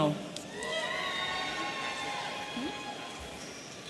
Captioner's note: audience cheering